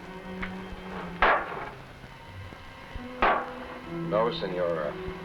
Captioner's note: bottles thudding